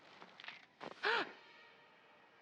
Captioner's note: gasp